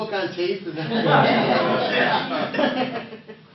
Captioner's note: laughter